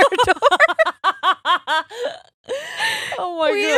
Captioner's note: laughing loudly